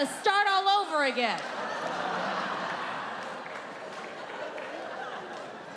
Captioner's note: audience laughing